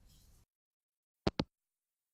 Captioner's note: hangup